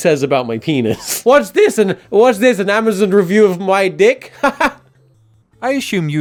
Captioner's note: laughing